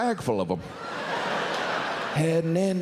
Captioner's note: audience laughs